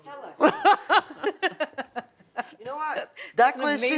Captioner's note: laughs